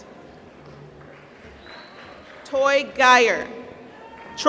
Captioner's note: applause